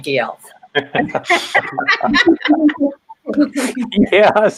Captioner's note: all laugh